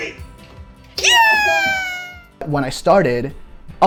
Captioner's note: people cheering